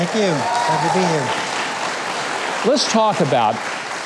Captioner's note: crowd cheering